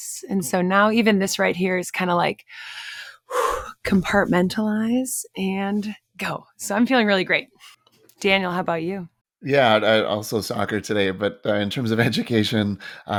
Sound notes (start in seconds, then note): 2.6 inhales and exhales